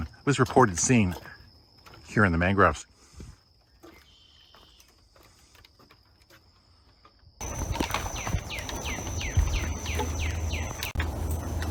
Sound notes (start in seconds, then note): 4.2 footsteps tapping; 7.4 birds chirping